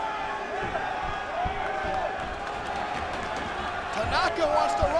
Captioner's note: crowd chattering